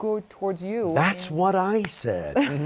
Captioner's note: laughter